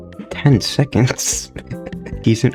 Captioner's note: laughs to myself